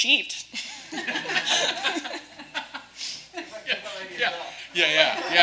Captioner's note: participants laughing